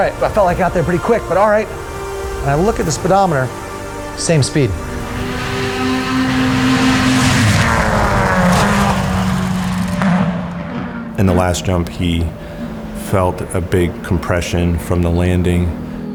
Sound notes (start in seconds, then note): 5.8 engine revving